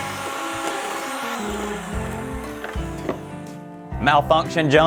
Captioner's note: mixer stops; mixer whirring